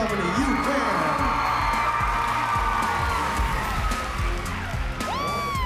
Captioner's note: cheering